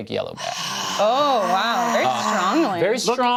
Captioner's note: groans loudly